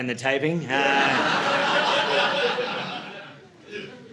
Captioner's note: audience laughing